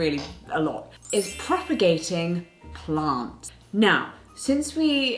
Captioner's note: magical chiming